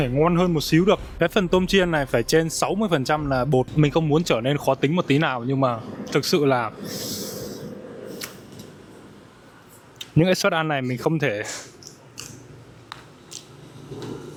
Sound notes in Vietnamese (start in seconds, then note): 6.8 khịt mũi